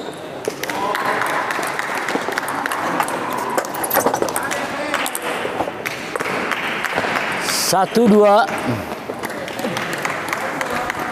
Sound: applause

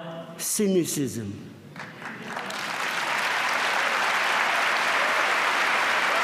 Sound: applause

